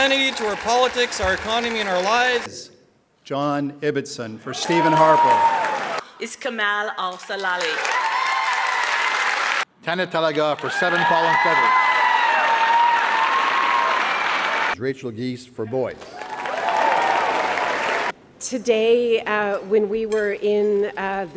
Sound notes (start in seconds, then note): 7.0 applause; 16.0 cheering and applause